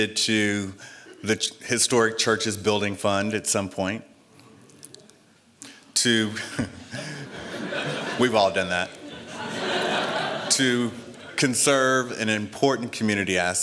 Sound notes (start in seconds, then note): 6.3 laughter; 6.4 laughs